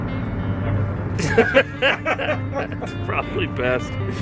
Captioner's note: laughing